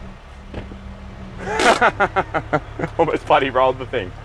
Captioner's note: laughing